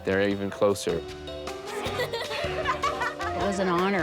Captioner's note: laughter